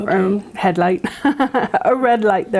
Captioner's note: laughs